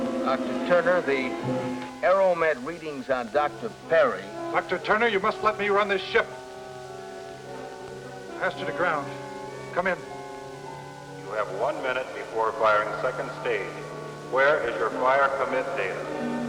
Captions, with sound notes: Dr. Turner, the aero med readings on Dr. Perry... - Dr. Turner, you must let me run this ship. ASTRA to ground, come in. - [Man on PA] You have 1 minute before firing second stage. Where is your fire commit data?